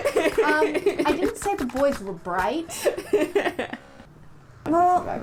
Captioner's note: laughter